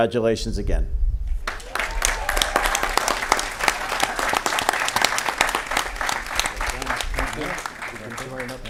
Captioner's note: applause